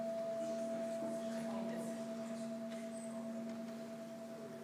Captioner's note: sustained gong